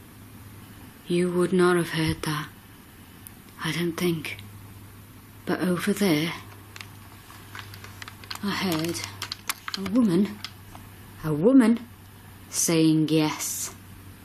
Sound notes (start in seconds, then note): none